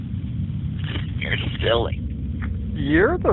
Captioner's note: laughs